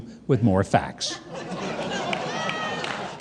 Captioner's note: audience laughing